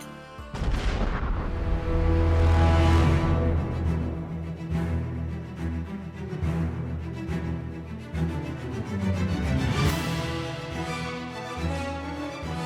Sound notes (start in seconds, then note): 0.5 epic explosion; 2.3 dramatic orchestral music